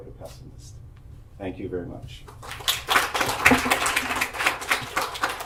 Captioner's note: audience applauds